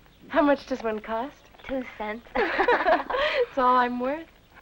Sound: all laughing

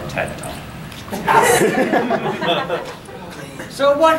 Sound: audience laughing

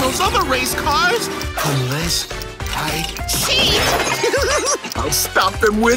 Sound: laughing

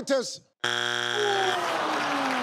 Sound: buzzing; audience exclaiming in disappointment and clapping

